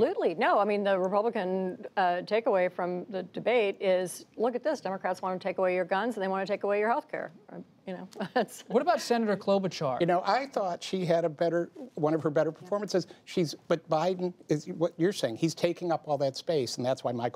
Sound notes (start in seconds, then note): 8.4 laughs